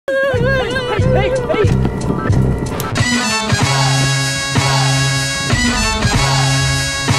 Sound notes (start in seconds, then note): 0.2 whimpering; 2.8 upbeat music